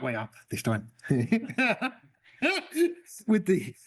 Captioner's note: laughter